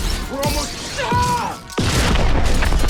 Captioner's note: screams